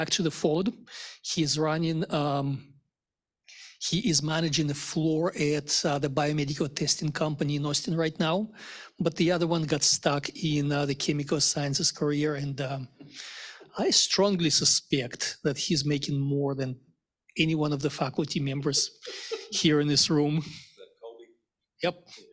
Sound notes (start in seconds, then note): 18.5 laughs